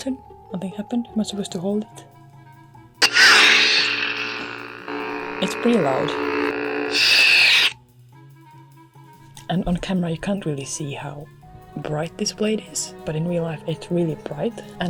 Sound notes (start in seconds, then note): 3.0 ignition sound